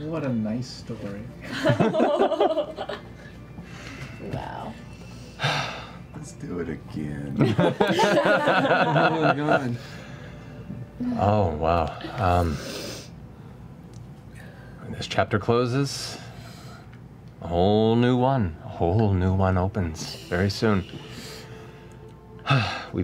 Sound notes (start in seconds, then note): 7.4 laughter; 22.4 sighs